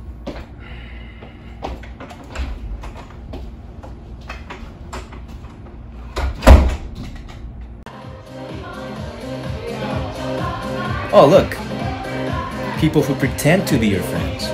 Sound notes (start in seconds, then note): 0.2 heavy footsteps; 6.2 door slams shut; 7.9 ♬ bar music in background ♬